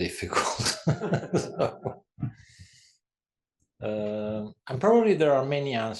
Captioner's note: laugh